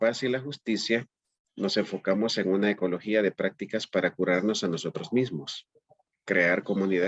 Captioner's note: speaking in Spanish